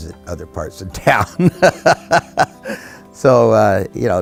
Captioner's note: laughing